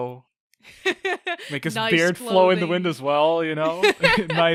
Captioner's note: laughs